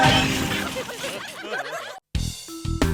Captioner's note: laughter